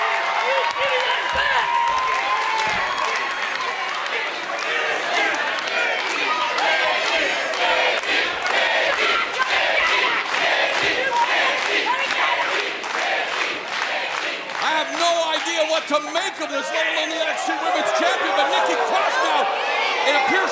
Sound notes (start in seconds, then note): 2.1 crowd cheering